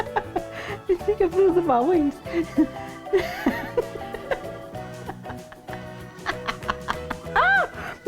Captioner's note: laughing; laughing